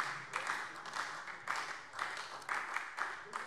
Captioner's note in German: Beifall SPD